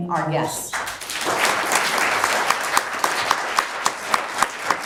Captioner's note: clapping